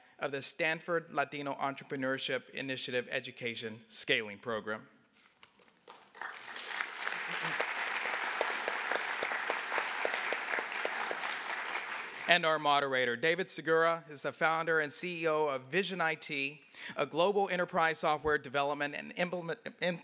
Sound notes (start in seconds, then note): 5.8 applause